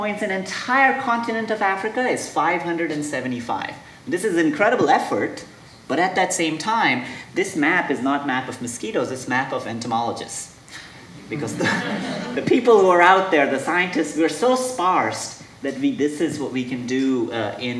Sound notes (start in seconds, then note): 11.2 audience laughing